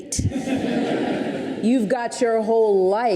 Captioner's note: audience laughs